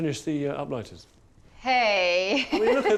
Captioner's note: laughs